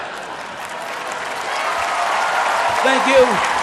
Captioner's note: cheering